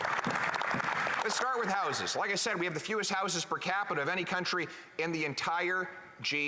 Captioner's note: applause